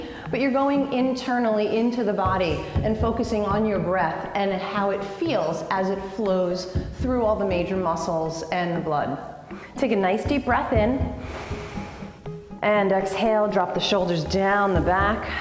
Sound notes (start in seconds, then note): 11.2 inhale